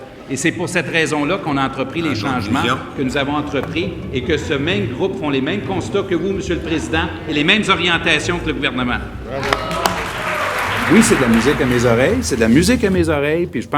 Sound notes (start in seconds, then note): 9.4 applauses